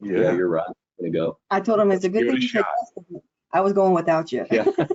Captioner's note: audio distortion